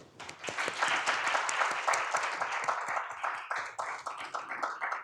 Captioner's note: audience cheers and applauds